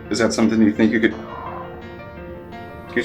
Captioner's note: caller groans